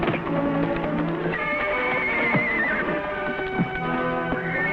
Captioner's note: whinnying